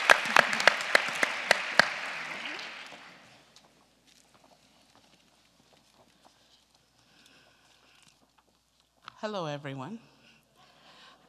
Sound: applause

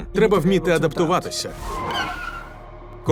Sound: tires screech

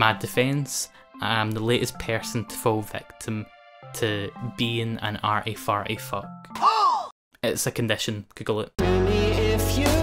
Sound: gasp

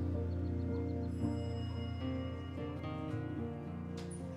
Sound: bell dings

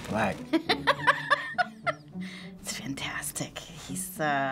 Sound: laughing

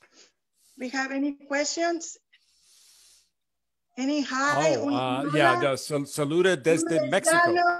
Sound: speaks Spanish

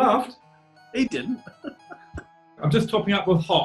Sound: chuckling

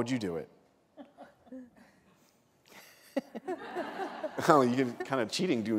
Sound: laughter

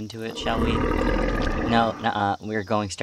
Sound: Azazel grunts

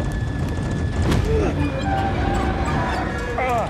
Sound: both groans

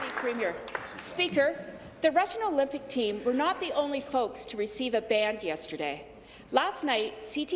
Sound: applause

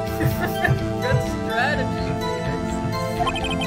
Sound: laugh

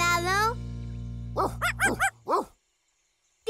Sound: barking

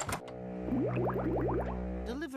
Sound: gurgling

